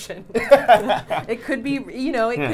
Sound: both laughing

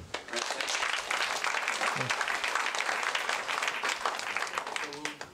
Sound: applause

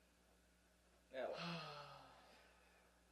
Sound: sighs

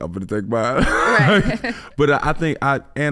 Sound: chuckling

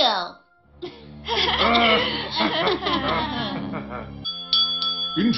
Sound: laugh nervously

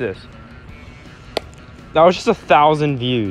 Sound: thump sound effect

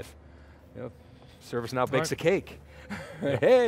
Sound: laughs

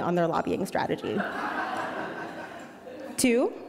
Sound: audience laughing

